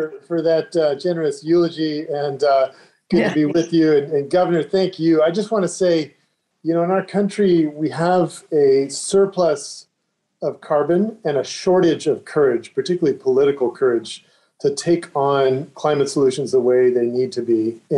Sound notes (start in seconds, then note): 3.1 chuckles